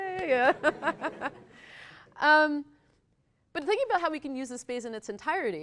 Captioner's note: laughs